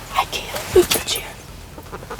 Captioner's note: whispering